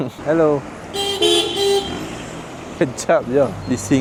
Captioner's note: cars honking